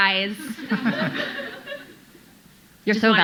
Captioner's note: audience laughing